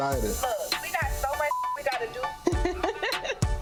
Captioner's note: beep; Renni laughing